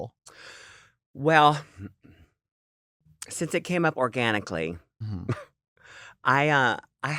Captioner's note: chuckles